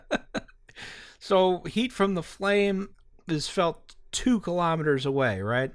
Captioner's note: laughter